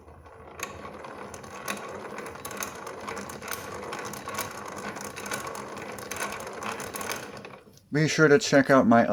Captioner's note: grinder sound